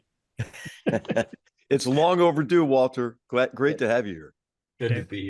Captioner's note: laugh